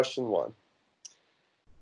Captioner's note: computer mouse click